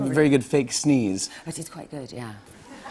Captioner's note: laughter